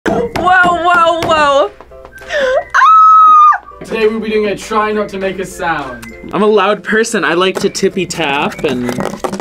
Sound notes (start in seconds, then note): 2.4 squeals